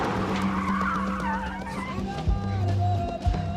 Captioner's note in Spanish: Chirrido de llantas